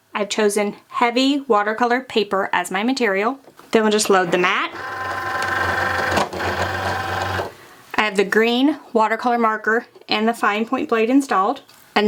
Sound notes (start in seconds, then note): 4.1 Cricut machine whirring